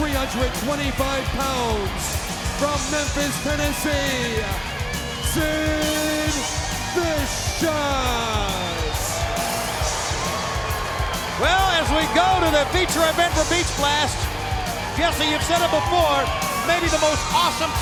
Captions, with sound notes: 325 pounds, from Memphis, Tennessee, Sid Vicious! (crowd boos) Well as we go to the feature event for Beach Blast, Jesse you've said it before, maybe the most awesome